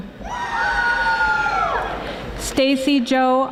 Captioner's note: audience applauding